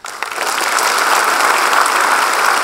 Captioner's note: applause